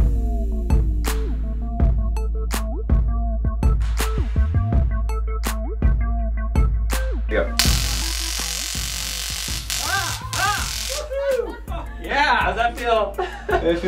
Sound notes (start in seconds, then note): 0.3 light energetic music; 7.6 stun gun and screaming; 11.0 laughing